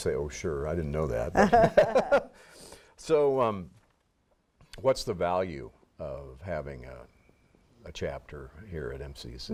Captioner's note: chuckles